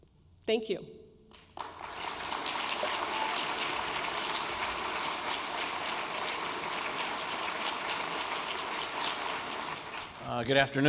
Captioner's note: clapping